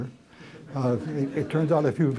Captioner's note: laughter